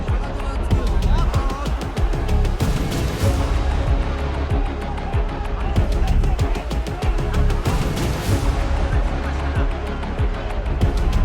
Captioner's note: crowd cheers